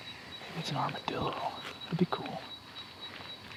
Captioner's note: none